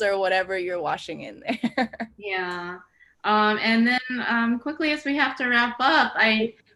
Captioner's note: laughs